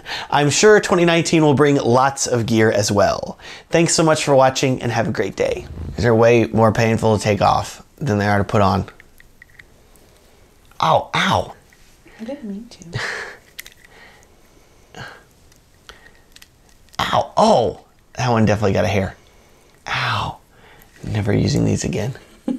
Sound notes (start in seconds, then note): 13.4 beardament crackles